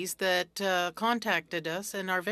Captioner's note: speaking French